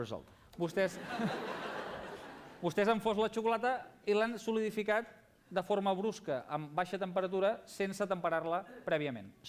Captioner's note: non-english speech